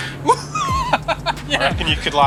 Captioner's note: laughs